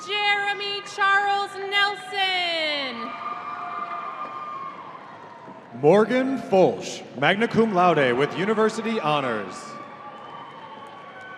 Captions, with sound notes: - Jeremy Charles Nelson. (audience cheering) - Morgan Foelsch, Magna Cum Laude with University Honors.